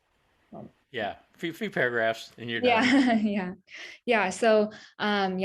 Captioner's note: laughs